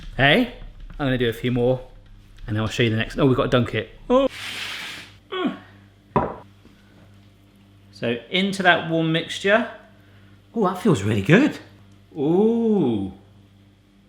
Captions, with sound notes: Hey, I'm gonna do a few more, and then I'll show you the next, oh, we've gotta dunk it. (whines) So into that warm mixture. Oh, that feels really good. Ooh.